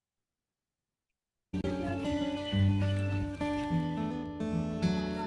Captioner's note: chatter